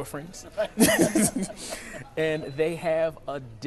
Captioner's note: laughing